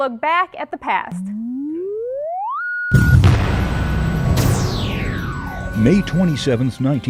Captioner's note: sound Effects